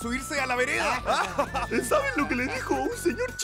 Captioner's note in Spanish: Todos ríen